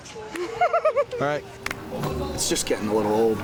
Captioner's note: Becky laughs